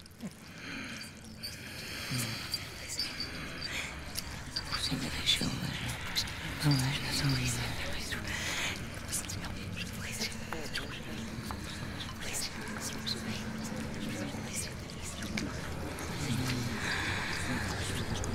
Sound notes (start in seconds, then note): 3.5 ominous music; 3.5 squishing; 7.9 ghostly whispering